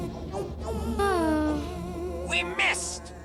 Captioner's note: sighs